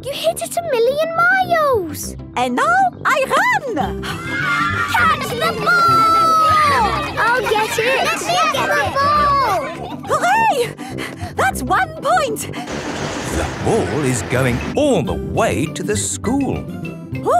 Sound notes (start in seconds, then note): 4.1 children cheering; 7.1 children calling for the ball